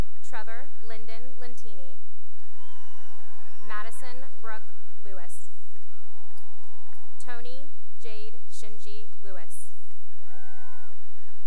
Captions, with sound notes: Trevor Linden Lentini [cheering and applause] Madison Brooke Lewis [cheering and applause] Toni Jade Xinji Lewis [cheering and applause]